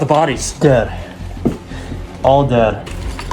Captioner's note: casing drops